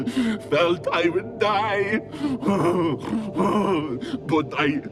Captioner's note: panting